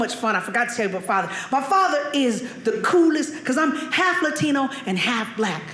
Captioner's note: none